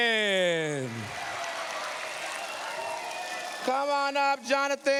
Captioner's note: cheers, applause